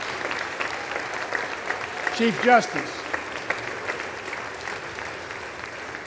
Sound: applause

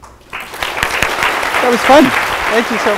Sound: audience applause

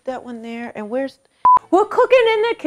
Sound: beep

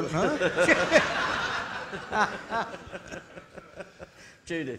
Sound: audience laughing

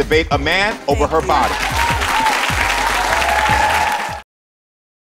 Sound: audience cheers

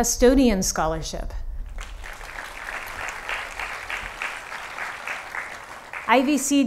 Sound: applause

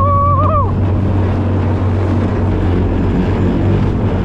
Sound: screaming

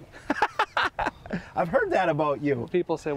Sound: laughter

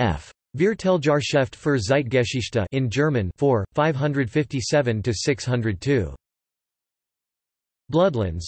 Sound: in German

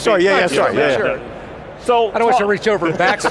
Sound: laughs

